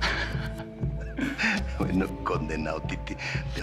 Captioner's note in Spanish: Risas